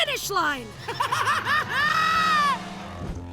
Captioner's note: Crusher laughing crazily